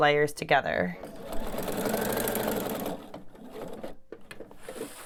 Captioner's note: machine whirs